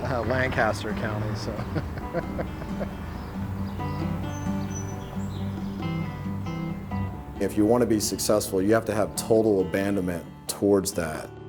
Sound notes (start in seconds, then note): 3.4 laughs; 6.9 guitar music